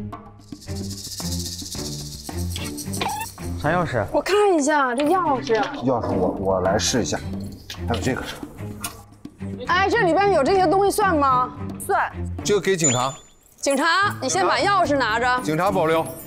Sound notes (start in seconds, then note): 3.1 alert